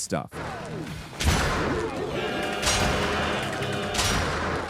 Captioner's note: gun popping